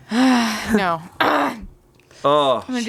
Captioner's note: clears throat